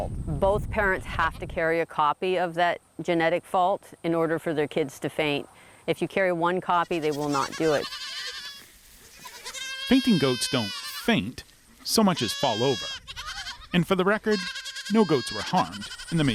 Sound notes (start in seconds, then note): 9.0 goats bleat